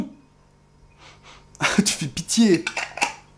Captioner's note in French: Reniflements